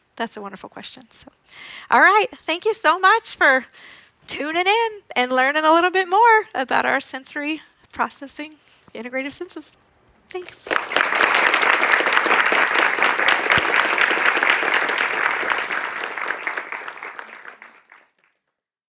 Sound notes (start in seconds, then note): 10.4 audience applauds